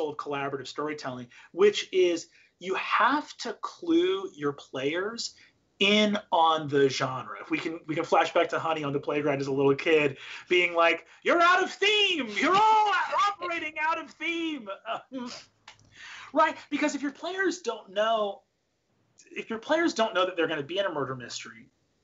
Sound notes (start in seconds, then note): 15.4 laughs